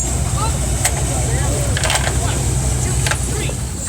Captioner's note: the wagon clatters